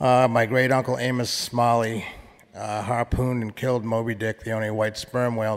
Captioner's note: none